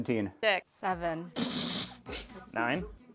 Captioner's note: fart